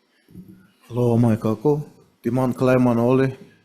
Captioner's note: speaks in foreign language